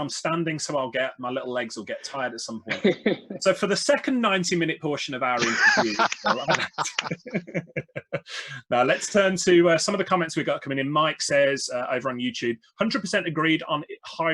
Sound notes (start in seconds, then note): 5.4 everybody Laughs